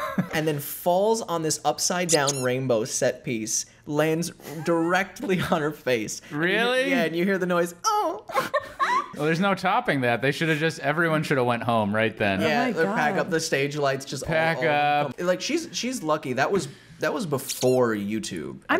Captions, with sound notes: And then falls on this upside down rainbow set piece, lands directly on her face. - Really? - Yeah, and you hear the noise, "Oh!" (laughter) - Well, there's no topping that. They should have just, everyone shoulda went home right then. - Yeah, the backup, the stage lights just - Backup! - Like, she's lucky. That was before YouTube.